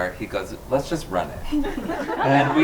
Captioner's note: group laughs